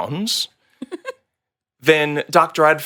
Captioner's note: laughing